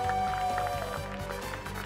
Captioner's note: applause